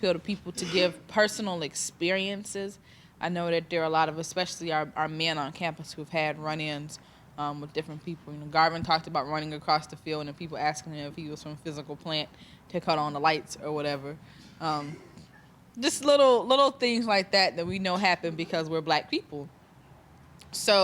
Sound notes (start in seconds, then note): 14.3 students chuckling